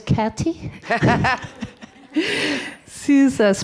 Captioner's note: laughs